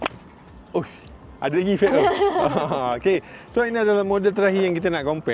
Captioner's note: ketawa